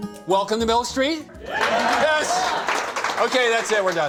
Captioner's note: cheers and applause